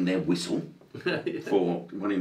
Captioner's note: laughs